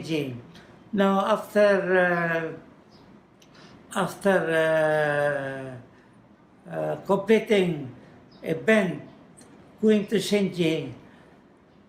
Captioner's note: foreign language